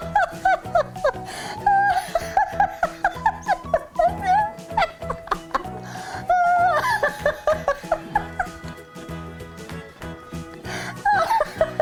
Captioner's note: laughing